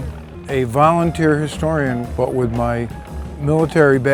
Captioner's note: crowd gasping; fire flaring